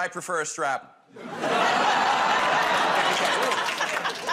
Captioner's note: audience groans